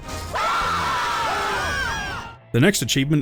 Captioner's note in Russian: вопли радости